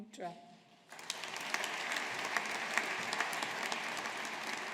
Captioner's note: audience applauding